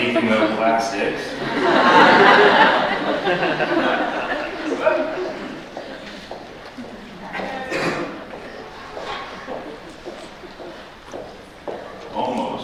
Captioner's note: laughter